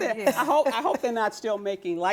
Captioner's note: laughter